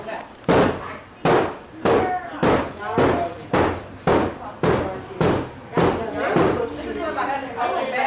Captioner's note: banging